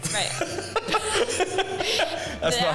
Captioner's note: laughing